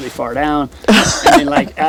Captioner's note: laughs